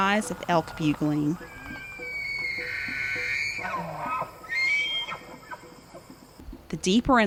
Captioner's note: elk bugling sound